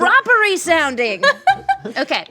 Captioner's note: laughing